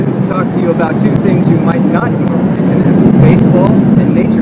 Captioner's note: traffic noise